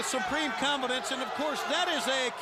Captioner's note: crowd chatter